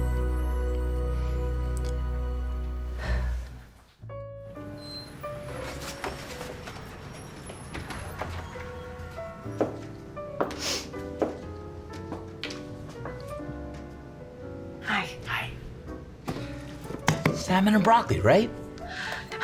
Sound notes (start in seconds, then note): 2.9 sighs; 5.4 jazzy music